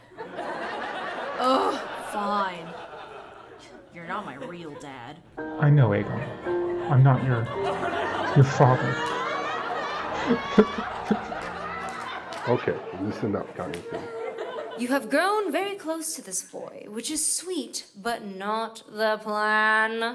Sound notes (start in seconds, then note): 11.2 weeps gently